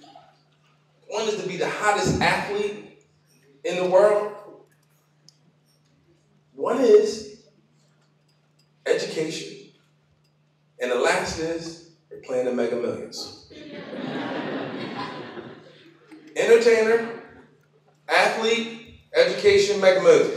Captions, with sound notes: ONE IS TO BE THE HOTTEST ATHLETE IN THE WORLD. ONE IS EDUCATION, AND THE LAST IS PLAYING THE MEGAMILLIONS. [LAUGHTER] ENTERTAINER, ATHLETE, EDUCATION, MEGAMILLION.